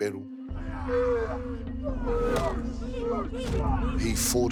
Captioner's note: warriors yell